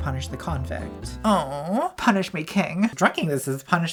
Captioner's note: moaning